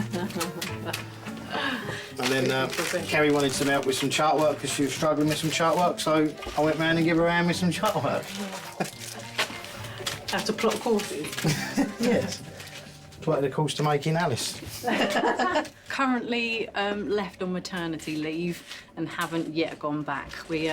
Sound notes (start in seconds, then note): 0.0 laughing; 8.2 laughing; 14.7 both laughing